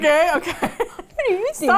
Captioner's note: laughs